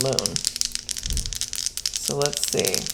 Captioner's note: dice rolling